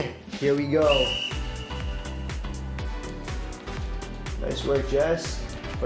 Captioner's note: whistle shrilling